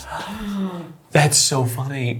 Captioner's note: people gasping